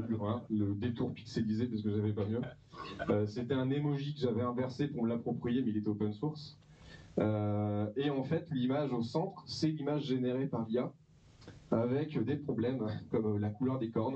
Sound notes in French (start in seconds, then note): 2.8 rires